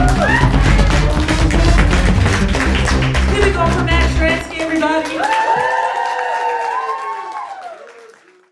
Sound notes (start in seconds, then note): 0.0 applause; 7.4 crowd cheers